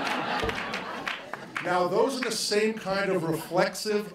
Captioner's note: laughter